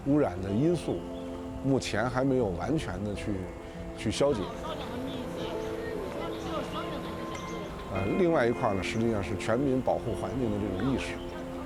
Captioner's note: speaking chinese